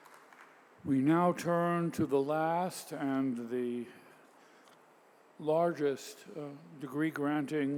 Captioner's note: applause